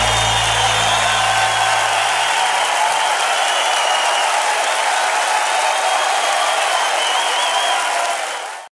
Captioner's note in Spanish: Aplausos y vítores